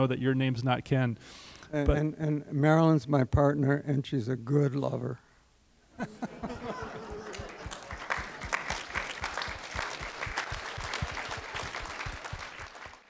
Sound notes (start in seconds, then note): 5.9 laughter; 7.0 applause